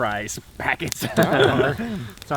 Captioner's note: all laugh